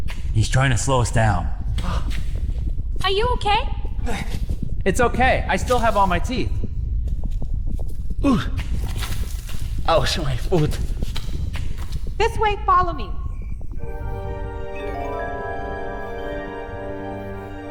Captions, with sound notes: He's trying to slow us down. (Moans) Are you okay? It's okay. I still have all my teeth. (Moans) Oh my foot. This way. Follow me. (Mysterious music)